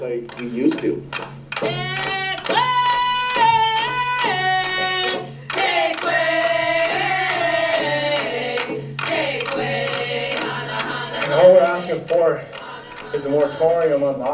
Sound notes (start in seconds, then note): 1.0 banging on drums; 1.8 chanting